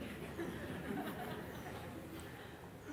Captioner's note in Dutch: gelach